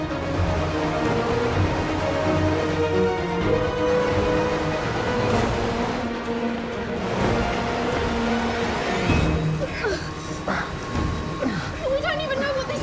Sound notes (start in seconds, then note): 11.3 grunting